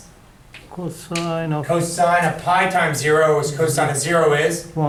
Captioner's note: voiceover